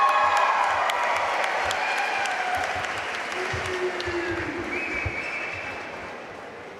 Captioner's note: audience cheering and applauding